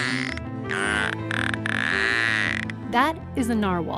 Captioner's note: sound of a Narwhal calling